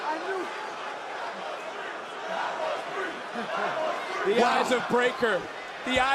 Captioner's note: crowd chants "that was three"